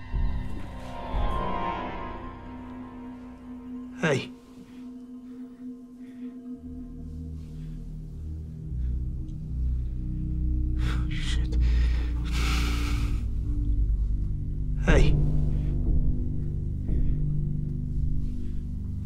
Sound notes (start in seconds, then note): 12.8 exhales heavily